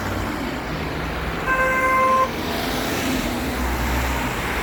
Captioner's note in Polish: trąbienie